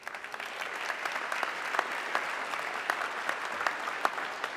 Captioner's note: audience clapping